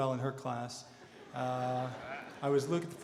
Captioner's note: audience laughter